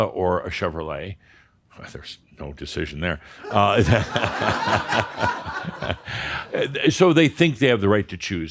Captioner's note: laughter